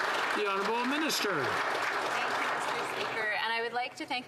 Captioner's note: some Applause